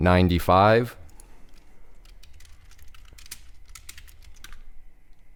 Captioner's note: rapid typing